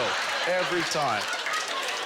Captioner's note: audience laughter